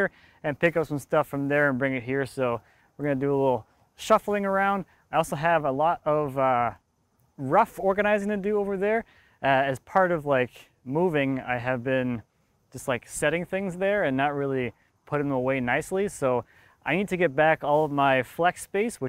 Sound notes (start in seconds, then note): none